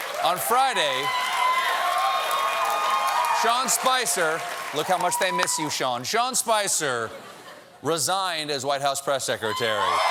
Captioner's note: cheers and applause